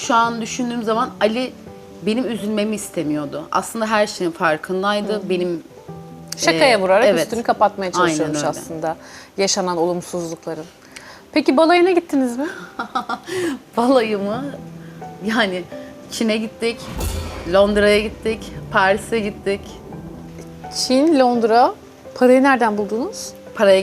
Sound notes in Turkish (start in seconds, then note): 12.4 kahkaha